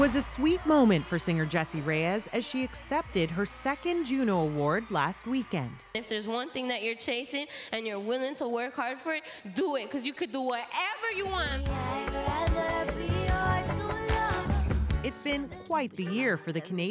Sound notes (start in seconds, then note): 3.8 cheers and Applause